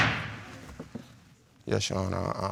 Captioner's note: gavel banging